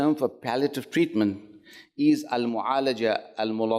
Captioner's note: speaks Arabic